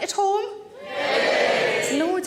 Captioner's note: audience cheering